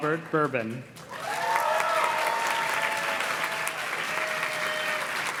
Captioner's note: audience cheers and claps